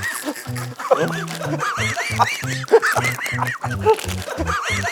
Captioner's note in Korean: 폭소